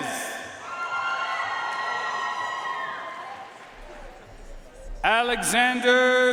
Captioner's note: audience cheering and applauding